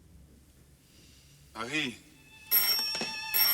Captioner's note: doorbell ringing